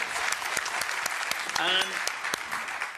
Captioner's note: audience applauding